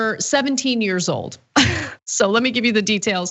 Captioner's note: laugh